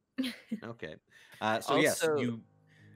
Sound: laughs

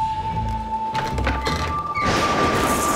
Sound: door creaks; thunder clap

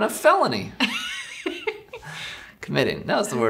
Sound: laughs

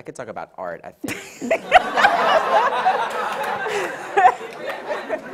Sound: audience and panel laughs

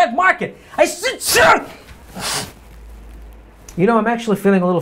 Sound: sneezes and sniffs

